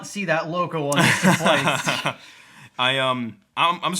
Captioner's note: laughing